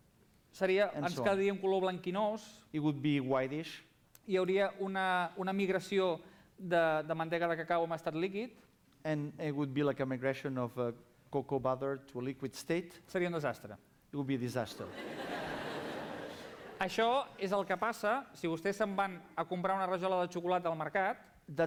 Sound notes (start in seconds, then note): 1.1 non-english speech; 6.0 non-english speech; 13.5 non-english speech; 14.8 laughter; 18.7 non-english speech